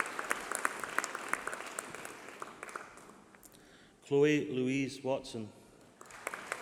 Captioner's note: applause